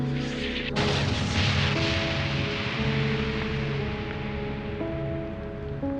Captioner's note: explosion echoes; flames crackling